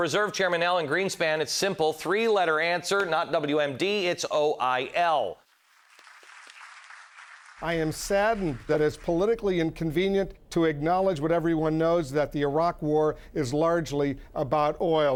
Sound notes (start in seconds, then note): 5.8 applauding